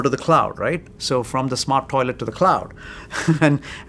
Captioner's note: laughs